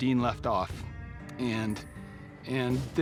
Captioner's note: says emotionally